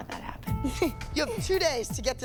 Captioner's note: giggles